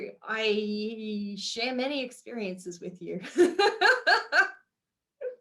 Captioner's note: laughs